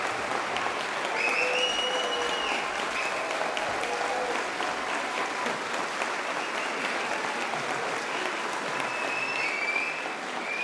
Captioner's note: clapping & whistling